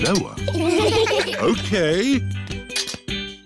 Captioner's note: laughter